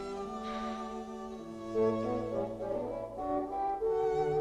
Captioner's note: Hundra sighs